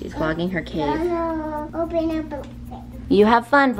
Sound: babbling

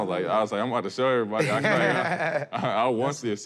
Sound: laughter

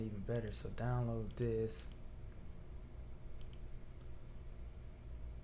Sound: clicking sounds

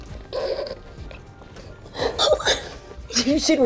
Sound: grunting

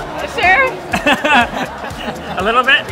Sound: laughing

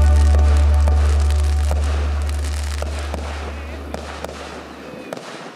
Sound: fireworks crackling, cheering

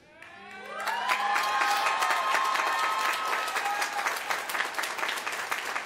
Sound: applause

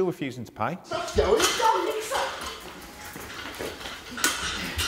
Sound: arguing

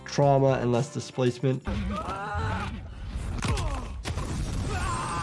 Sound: fighter groans

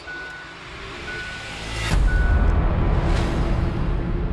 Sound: dramatic music; ignition switch dinging

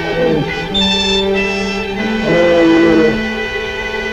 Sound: bear growls

